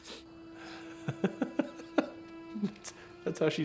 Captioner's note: laughs